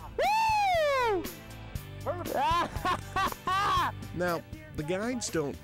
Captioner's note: hoots, hollers